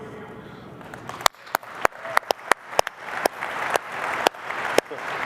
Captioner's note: applause